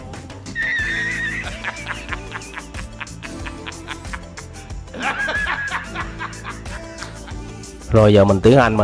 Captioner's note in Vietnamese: Tiếng cười